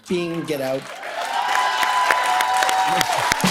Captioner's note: cheers and applause; laughing